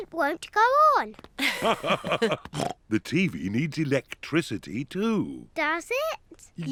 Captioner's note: both laugh